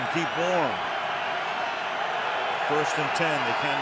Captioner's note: cheering